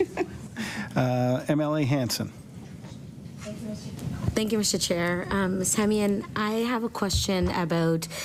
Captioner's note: laughter